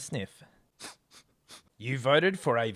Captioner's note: sniffing